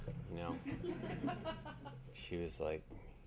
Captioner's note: audience laughing